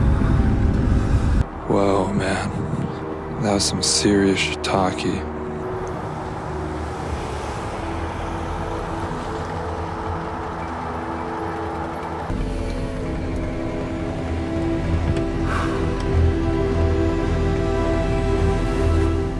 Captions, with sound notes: Whoa man, that was some serious shiitake... (exhales)